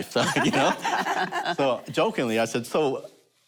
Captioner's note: laughter